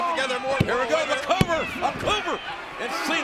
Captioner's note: hands thudding